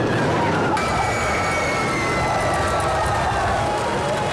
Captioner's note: people screaming